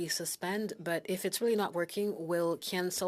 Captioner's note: speaking FRENCH